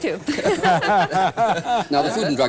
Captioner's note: laughter